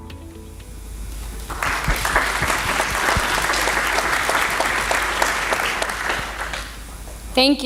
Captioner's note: applause